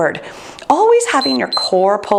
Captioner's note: timer beeps